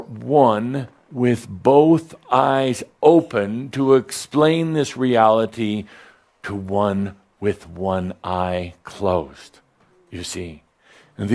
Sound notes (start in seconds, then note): none